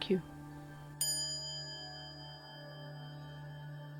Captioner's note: quiet chime